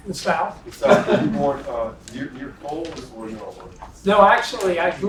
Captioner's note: laugh